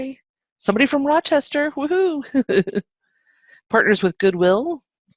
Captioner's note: chuckles